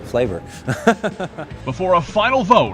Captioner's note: laughs